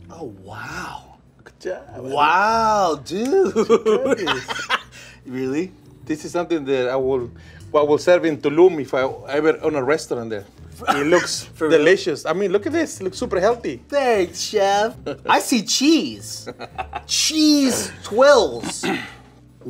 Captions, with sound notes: - Oh, wow. - Good job. - Wow, dude! [laughs] Really? - This is something that I would serve in Tulum if I ever own a restaurant there. It looks delicious. Look at this. It looks super healthy. - Thanks, chef! I see cheese! Cheese tuiles.